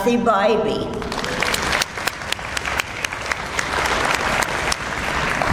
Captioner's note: audience applauds